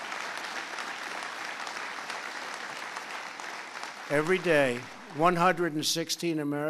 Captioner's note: applause